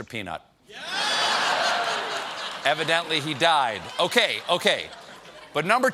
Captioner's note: laughter